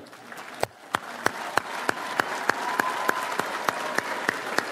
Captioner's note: audience applauds